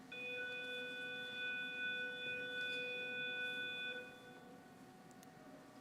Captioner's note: school bell buzzing